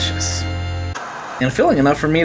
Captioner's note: white noise scratching